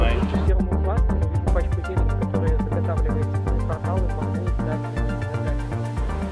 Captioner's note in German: Voiceover; in Fremsprache